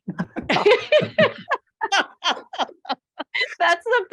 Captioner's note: laughing